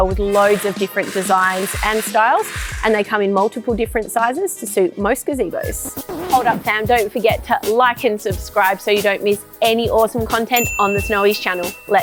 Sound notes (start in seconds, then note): 6.1 record scratching